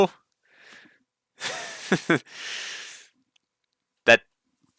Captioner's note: laughs